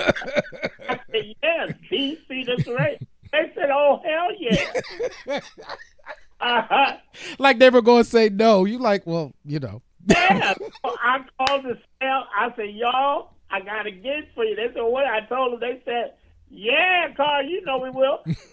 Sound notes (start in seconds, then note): 4.4 laughing